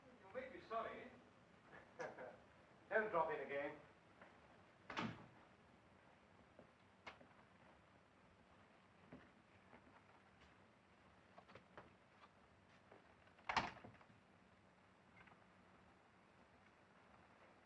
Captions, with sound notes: - You may be sorry. - Don't drop in again. (door closes)